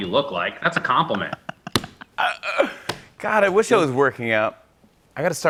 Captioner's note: laughs